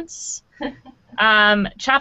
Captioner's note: laughing